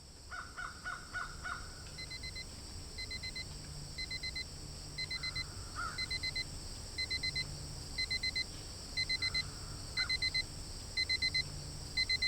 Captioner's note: alarm Ringing